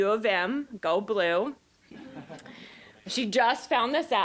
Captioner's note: audience chuckling